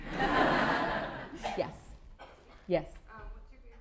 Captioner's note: laughter